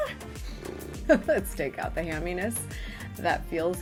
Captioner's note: lips rippling; vocalizing; laughing